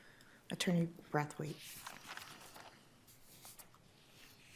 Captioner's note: paper rustling